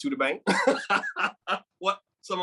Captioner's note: speaker laughing; speaking in a foreign language